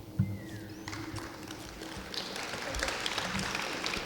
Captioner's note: clapping